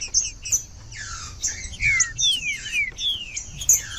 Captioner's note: trinca ferro cantando